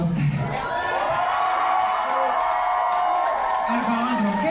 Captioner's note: applause